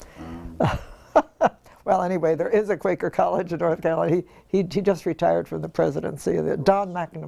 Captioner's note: laugh